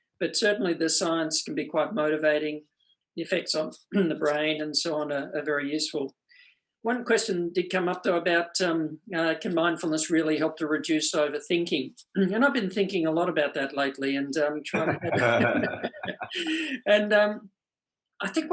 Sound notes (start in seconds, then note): 14.7 both laugh